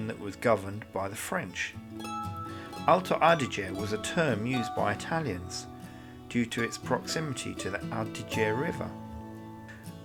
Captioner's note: French